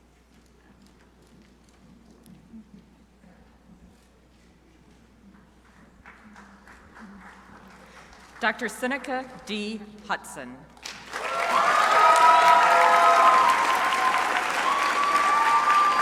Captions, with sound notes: Dr. Seneca D. Hutson. (crowd applauding)